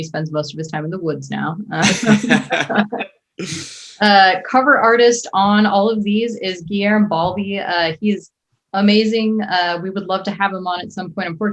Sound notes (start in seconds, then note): 1.8 all laughing